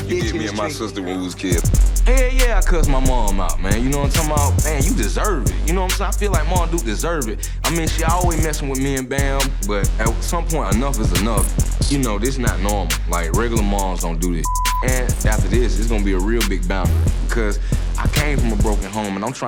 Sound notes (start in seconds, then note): 14.4 beeping